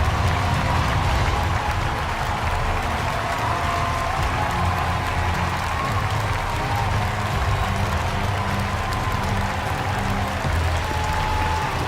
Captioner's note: cheers and applause